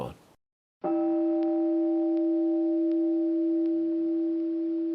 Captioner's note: meditation chime